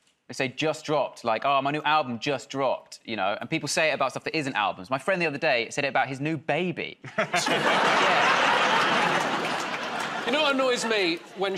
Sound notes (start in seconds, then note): 8.8 laughter